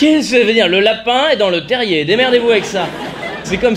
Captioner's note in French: voix d'agent secret; rires